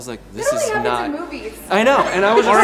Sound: laughs

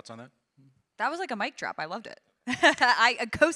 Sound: laughs

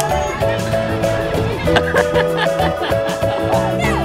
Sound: cheerful music; laughing

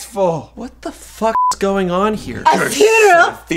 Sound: beep

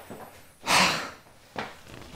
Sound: sighs

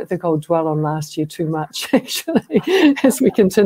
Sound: laughter

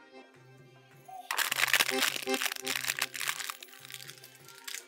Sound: crushing of a plastic glass

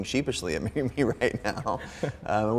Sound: both chuckling

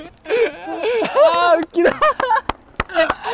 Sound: laughing

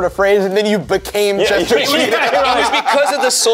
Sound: laughs

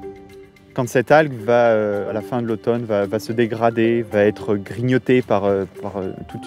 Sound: speaking in French

